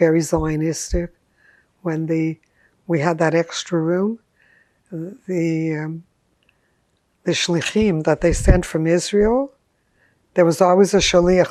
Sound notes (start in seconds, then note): 7.4 hebrew; 10.8 hebrew